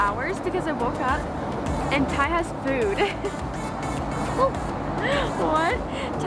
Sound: laughs

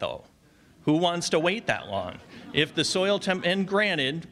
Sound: audience laughs

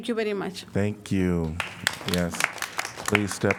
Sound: applause

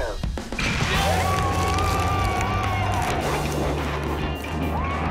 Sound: crowd cheers

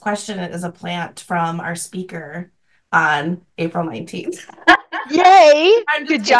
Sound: laughs

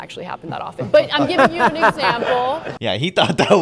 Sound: Ben laughs

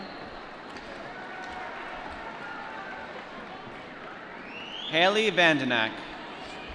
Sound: applause

